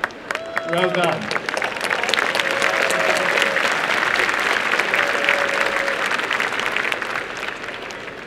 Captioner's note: applause